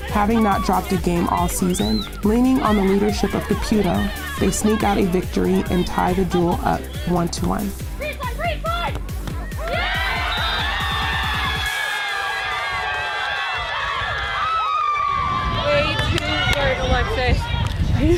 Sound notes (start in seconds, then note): 8.5 whistle blows; 9.4 cheers